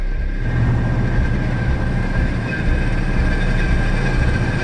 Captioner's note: engine rumbling